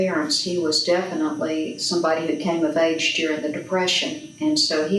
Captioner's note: none